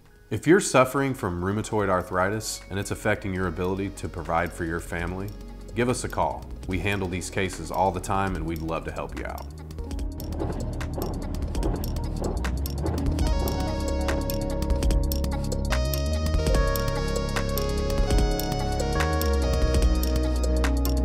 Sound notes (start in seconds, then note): 9.6 soldiers marching; 12.4 quick techno music; 16.2 quick techno music